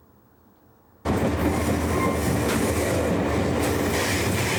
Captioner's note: train rolls on track